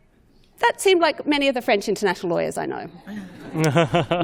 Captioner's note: laughter